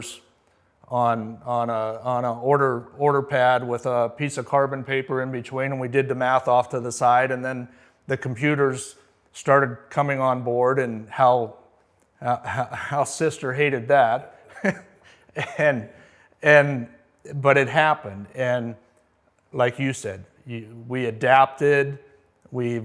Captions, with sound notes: on a order pad with a piece of carbon paper in between and we did the math off to the side and then the computers started coming on board and how sister hated that. (chuckles) And, but it happened. And like you said, you, we adapted, we evolved